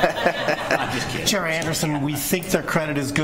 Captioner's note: laughter